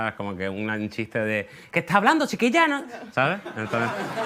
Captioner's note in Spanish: acento andaluz